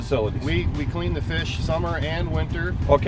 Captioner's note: voiceover